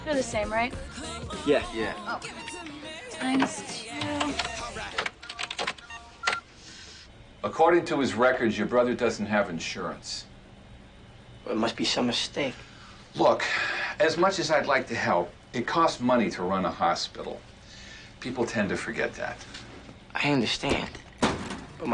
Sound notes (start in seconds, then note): 4.9 typing on the register